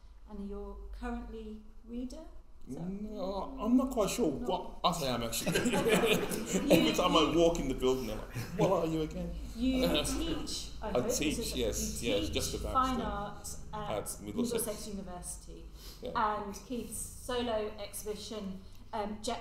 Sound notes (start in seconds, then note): 5.3 all laughing